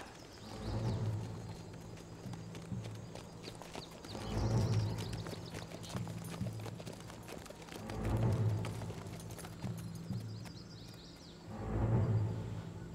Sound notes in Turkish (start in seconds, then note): 0.1 Müzik - Gerilim; 8.3 At nalı sesleri